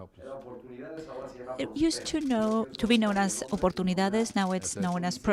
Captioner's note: through translator